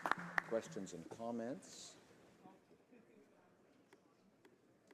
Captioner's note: some Applause